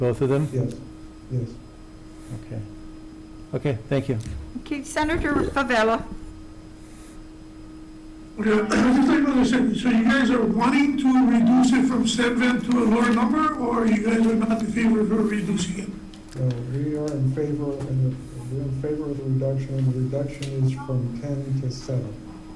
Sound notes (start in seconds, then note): 8.5 clears his throat